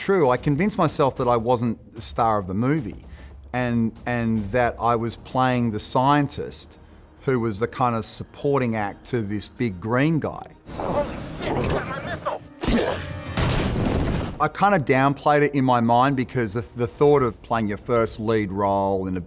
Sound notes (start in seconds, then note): 12.8 Hulk grunting; 13.4 helicopter exploding